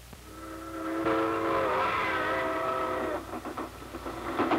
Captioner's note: train whistle blowing; train rolling along tracks